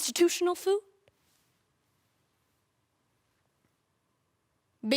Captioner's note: fabric rustling